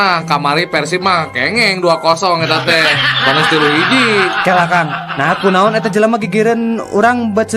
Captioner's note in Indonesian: tertawa